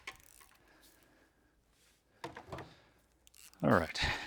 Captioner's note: metal clanking